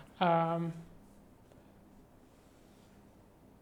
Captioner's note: silence